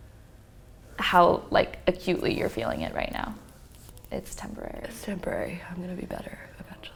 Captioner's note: whispers